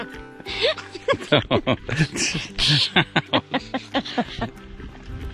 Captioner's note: both laughing